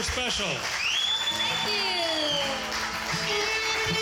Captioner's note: audience cheering; upbeat music